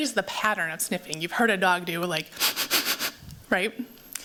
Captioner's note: sniffs